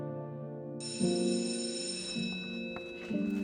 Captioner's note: school bell rings